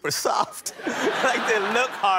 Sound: laughter

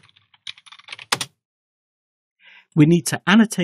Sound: typing

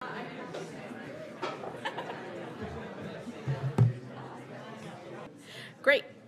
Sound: audience chattering indistinctly

